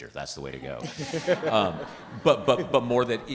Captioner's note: participants laughing